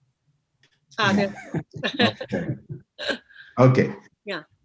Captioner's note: all laugh